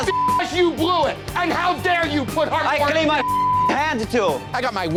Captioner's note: beep; beep